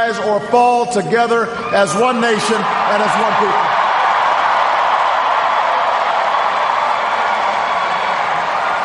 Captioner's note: cheers, applause